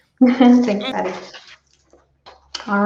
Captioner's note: chuckles